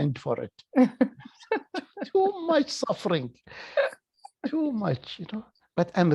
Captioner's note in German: lacht